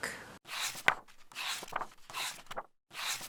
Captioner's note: pages turning